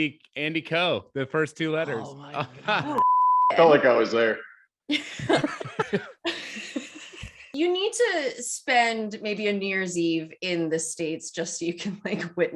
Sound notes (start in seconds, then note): 5.0 laughing